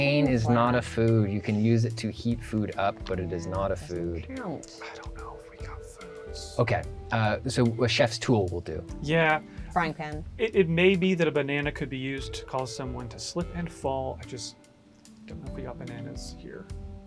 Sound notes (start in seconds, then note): 5.2 whispering